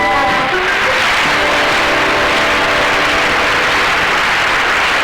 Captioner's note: audience Applauding